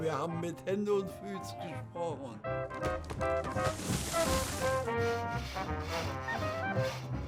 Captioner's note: treefalling, saw cutting tree; newsreel music